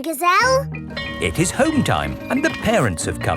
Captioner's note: bell tolling